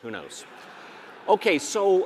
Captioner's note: audience laughing